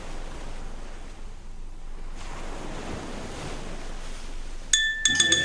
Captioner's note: waves crashing